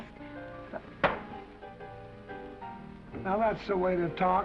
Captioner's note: gentle music; hand thuds